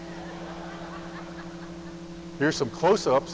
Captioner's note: audience laughing